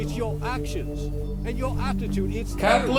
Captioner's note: TV noises